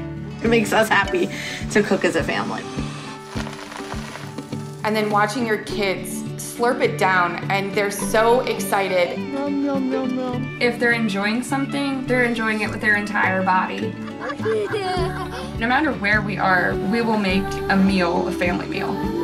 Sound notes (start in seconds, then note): 3.3 sizzling; 13.7 laughing